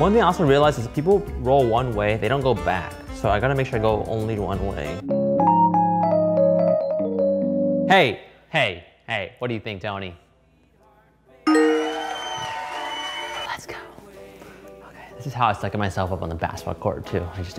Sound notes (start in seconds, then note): 5.2 funky music; 11.4 crowd cheering